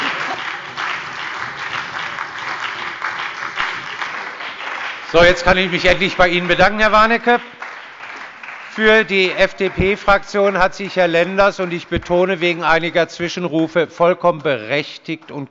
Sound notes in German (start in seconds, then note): 1.5 Beifall bei der SPD und der FDP